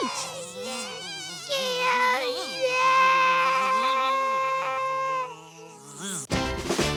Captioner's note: Buzzing, Derp panics